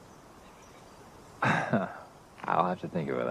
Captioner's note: laughs